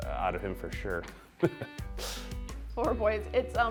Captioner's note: laughing